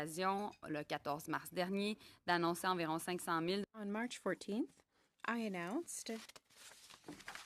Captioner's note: speaking in french